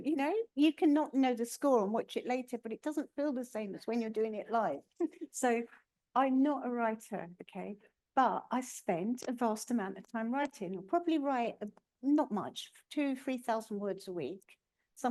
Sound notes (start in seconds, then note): 4.9 laughing